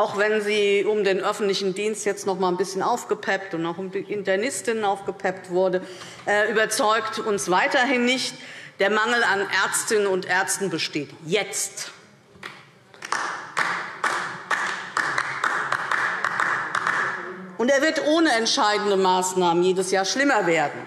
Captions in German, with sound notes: auch wenn sie um den öffentlichen Gesundheitsdienst und durch die Internistinnen und Internisten ein bisschen aufgepeppt wurde. Der Mangel an Ärztinnen und Ärzten besteht jetzt. [Beifall DIE LINKE] Er wird ohne entscheidende Maßnahmen jedes Jahr schlimmer werden.